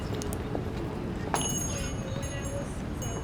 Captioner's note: bells jingling